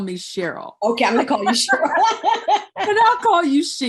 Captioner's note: laughs